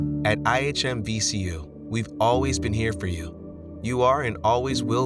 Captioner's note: voiceover